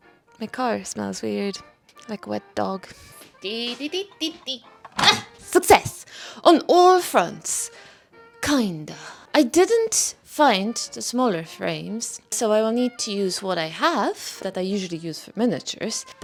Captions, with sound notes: my car smells weird like a wet dog *singing happily* ti-bi-ti-ti-ti *smash!* success! on all fronts kind of I didn't find the smaller frames so I will need to use what I have that I usually use for miniatures